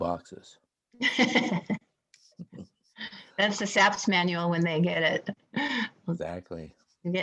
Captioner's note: laughing